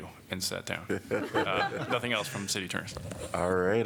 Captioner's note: laughter